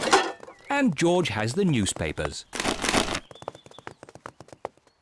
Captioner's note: cans rattle; papers thud